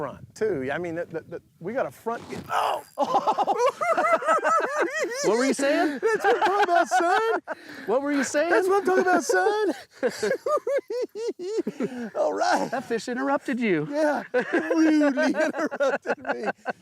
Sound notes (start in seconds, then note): 2.8 both giggling; 8.5 giggling